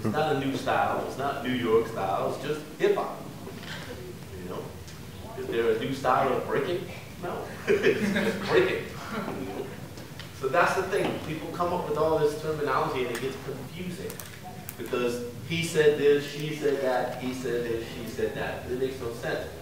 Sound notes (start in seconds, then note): 7.5 laughs